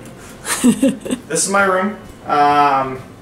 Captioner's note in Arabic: تضحك